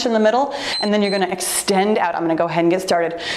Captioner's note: timer beeps